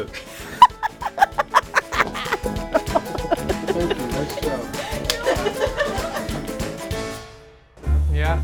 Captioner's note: laughter